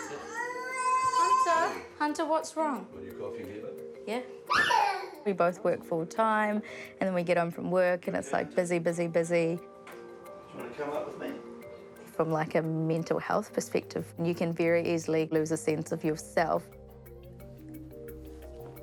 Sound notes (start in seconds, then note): 0.0 child cries; 4.5 squeals